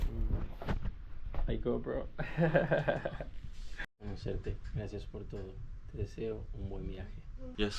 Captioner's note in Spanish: risas